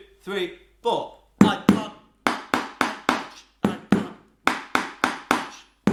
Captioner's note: hollow tapping sound